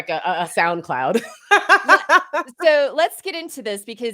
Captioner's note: laughs